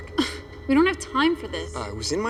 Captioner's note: Vanessa scoffs